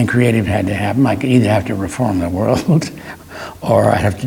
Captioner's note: laughs